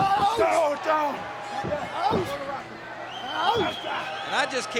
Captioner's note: Mankind groans